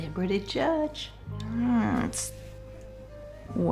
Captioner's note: groans